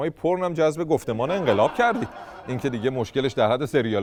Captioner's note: laughter